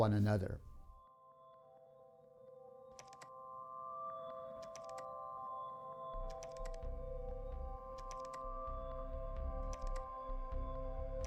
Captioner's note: clicking